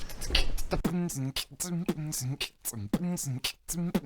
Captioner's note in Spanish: más beatboxing